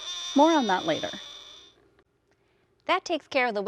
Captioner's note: buzzing